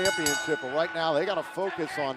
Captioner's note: bell ringing